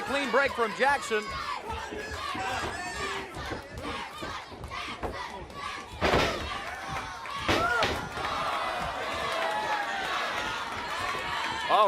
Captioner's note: crowd cheering